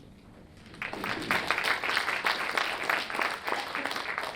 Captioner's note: audience applauds